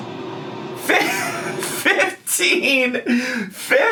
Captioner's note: laughs